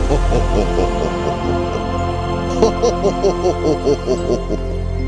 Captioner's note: Q Laughing